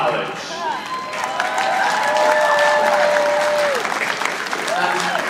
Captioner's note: audience applauding